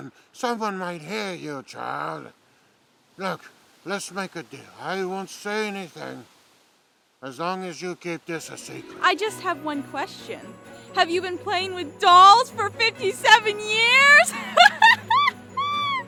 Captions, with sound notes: Someone might hear you, child. Look, let's make a deal. I won't say anything as long as you keep this a secret. - I just have one question. Have you been playing with dolls for 57 years? (laughs)